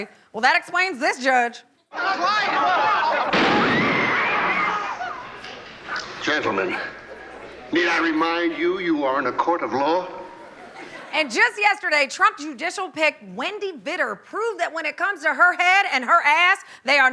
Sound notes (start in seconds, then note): 1.9 crowd clamoring; 2.0 crowd screams